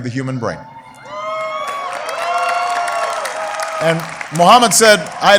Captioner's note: applause